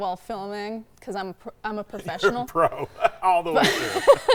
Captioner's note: laughing